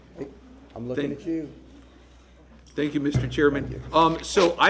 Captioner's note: sounding gavel